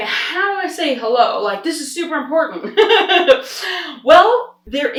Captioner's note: laughs